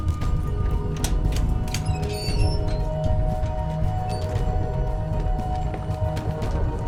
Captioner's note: keys jingling; gate squeaking; lock clicking; suspenseful music